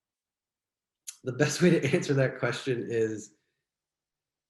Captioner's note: giggles